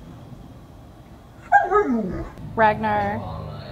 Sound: dog whining

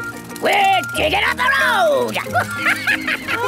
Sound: chuckles

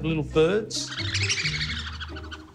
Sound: percussion bird noise

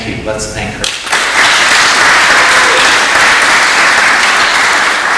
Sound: audience applauds

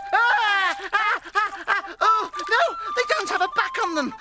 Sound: yells

